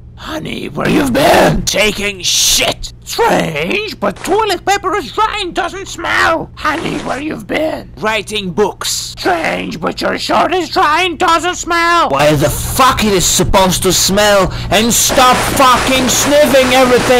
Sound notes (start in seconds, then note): 8.9 politely